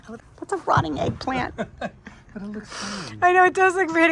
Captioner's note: laughs